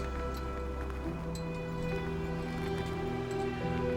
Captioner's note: wind howling